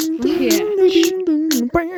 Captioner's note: then more beatboxing